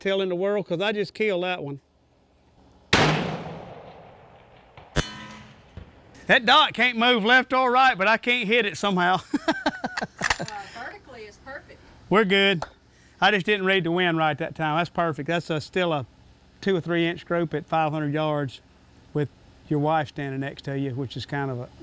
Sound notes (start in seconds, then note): 2.9 gun fires; 4.9 clang